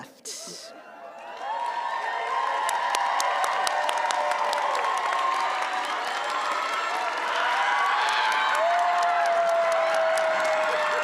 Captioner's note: cheering and applause